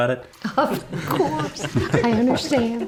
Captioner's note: everyone giggling